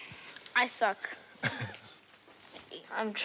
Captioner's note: chuckles